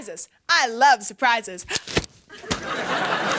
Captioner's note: umbrella snaps as it opens; wet splat on umbrella